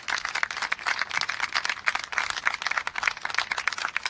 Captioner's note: applause